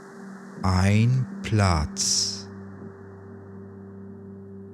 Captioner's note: german